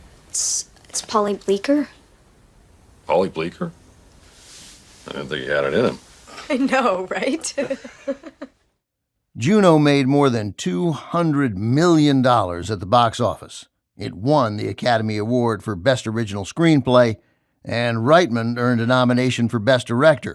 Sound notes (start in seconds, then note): 7.4 chuckles